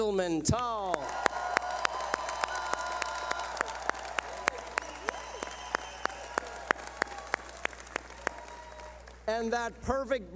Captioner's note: cheering